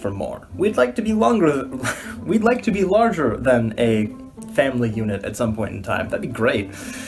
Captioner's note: laugh